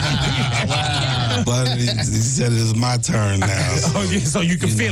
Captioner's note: laughing